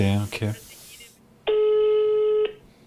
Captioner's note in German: Freizeichen